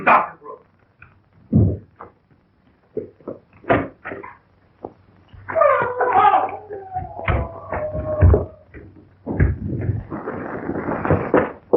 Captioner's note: pounding